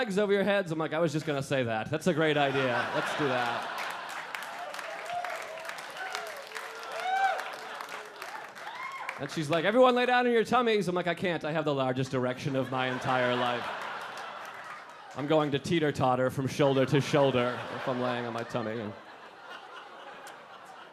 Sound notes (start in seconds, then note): 2.2 audience laughing; 4.3 audience clapping; 12.4 audience laughing; 19.3 audience laughing